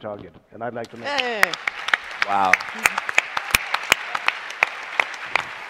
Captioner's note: applause